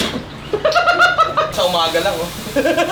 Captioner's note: laughs